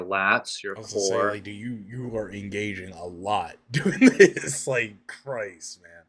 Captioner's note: laughs